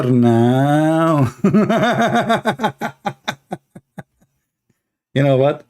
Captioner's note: Ketawa